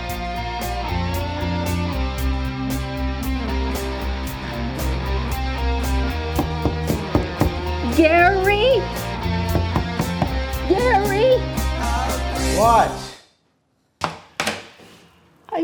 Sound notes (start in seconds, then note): 6.1 knocking on door